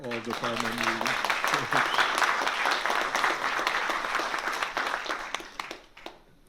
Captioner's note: applause